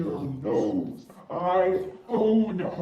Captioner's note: warbled speaking